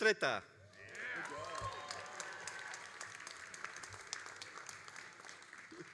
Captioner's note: all applauding and cheering